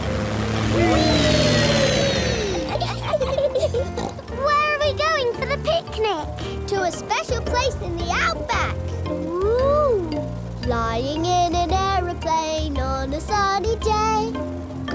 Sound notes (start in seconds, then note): 2.5 laughs and snorts